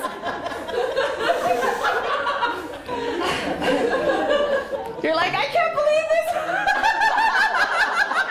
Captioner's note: laughter